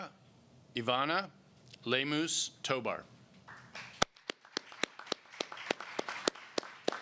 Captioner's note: applause